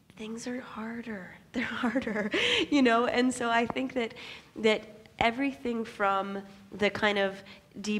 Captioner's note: laughs